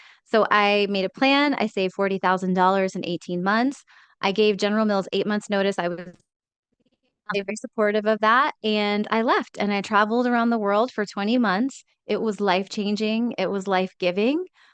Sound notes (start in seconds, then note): 6.2 speaks faintly